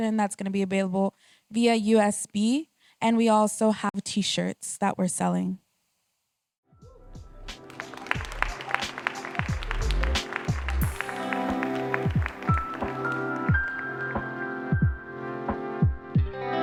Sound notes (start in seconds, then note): 7.5 applause; 11.5 closing music